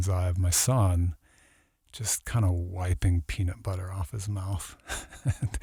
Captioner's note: laughs